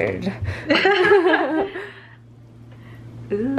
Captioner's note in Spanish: risa